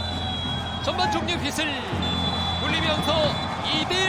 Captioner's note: blowing the whistle for halftime